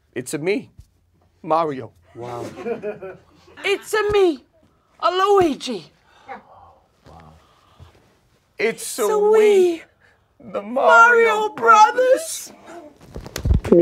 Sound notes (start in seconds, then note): 2.3 audience laughs